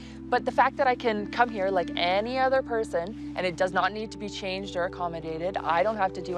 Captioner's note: none